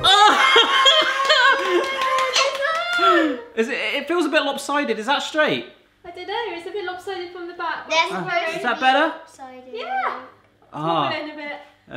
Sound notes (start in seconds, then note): 0.0 laughing; 0.0 all cheering